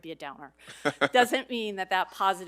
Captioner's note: laughs